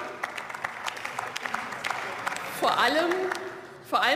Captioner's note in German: Beifall